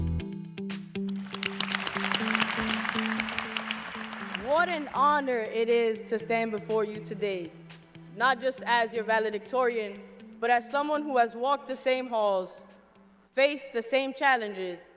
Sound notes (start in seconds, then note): 2.9 applause